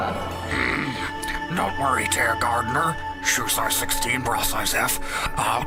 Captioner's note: Crump voice